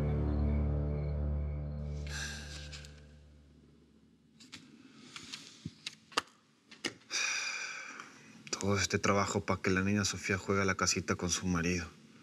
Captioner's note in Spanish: exhala